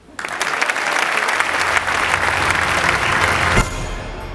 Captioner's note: applause